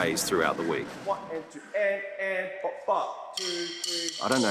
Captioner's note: imitates drumming noise